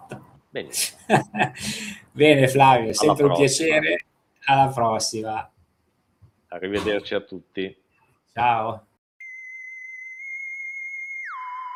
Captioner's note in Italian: risate